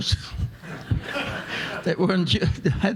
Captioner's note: audience laughing